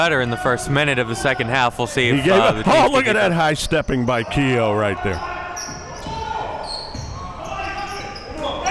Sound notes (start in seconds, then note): 4.9 yelling